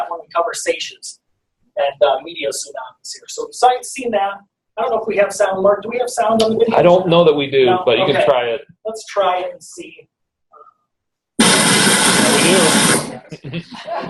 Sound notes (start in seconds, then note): 10.1 wind howling